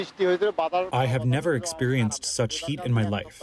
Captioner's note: through translator